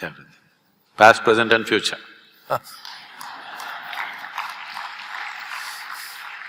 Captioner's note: Karan Johar laughs; applause